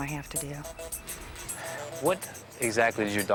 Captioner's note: keys clacking